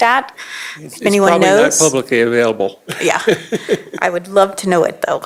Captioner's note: laughter